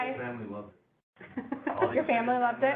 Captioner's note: laughter